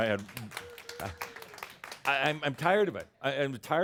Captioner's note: laughter; some applause